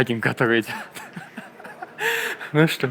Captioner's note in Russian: смех